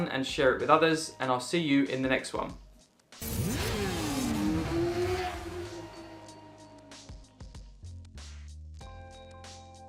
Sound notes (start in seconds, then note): 3.2 engine revving; 3.2 upbeat music